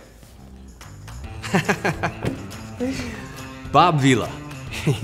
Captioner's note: laughs